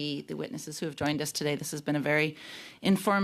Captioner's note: speaking French